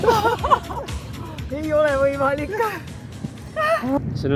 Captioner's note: laughing